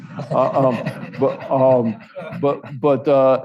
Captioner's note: audience laughs